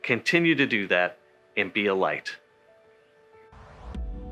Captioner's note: page whooshing